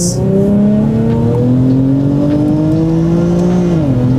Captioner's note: engine revving